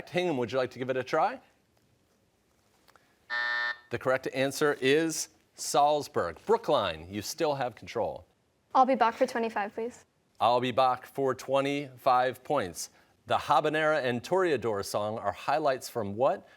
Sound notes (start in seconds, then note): 3.3 buzzer